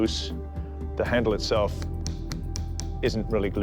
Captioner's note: hollow tapping